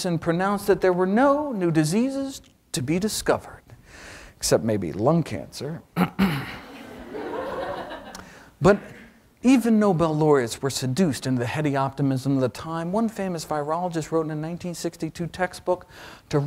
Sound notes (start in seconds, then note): 5.9 clears throat; 6.6 audience laughs